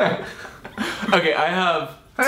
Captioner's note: laughs